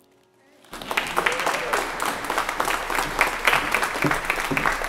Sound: congregation applauds

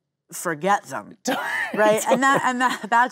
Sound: Glen laughing

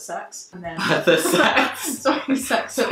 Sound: laughing

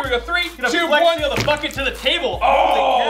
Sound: squish

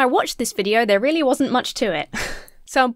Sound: chuckles

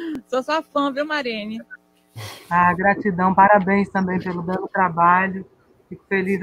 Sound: continuing conversation in Portuguese

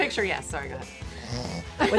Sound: snoring sound

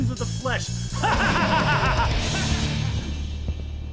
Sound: evil laughter

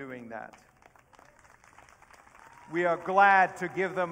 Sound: audience cheering

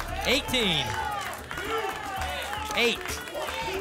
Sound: audience shouting numbers

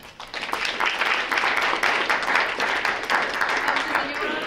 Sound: group applauding

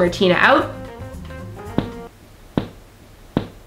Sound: loud pop

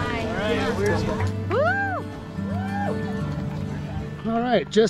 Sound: people cheering

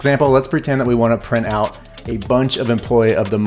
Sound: typewriter clicks

